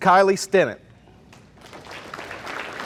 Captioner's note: audience applauding